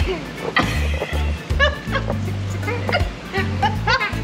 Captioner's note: laughs; group affirming